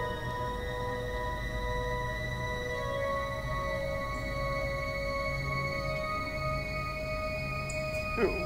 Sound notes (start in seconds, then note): 8.1 cries